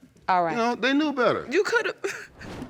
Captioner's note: sobbing